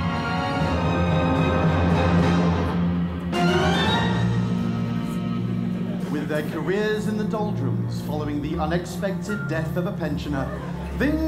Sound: text read in voiceover

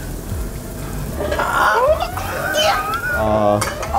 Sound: tipsy

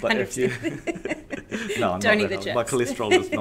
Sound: both laugh

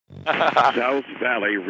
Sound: laughs

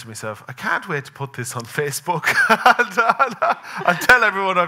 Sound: laughing

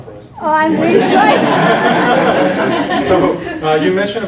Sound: laughter

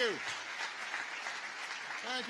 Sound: applause

